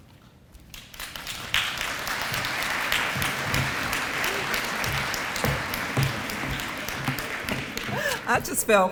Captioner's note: audience applause